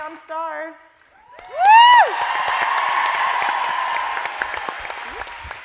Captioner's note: audience cheering